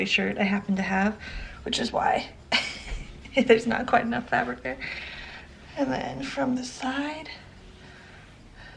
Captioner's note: chuckle